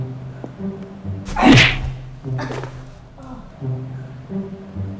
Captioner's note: punch thudding